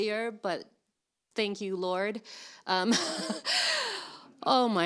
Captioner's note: laughs